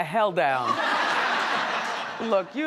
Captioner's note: audience laughs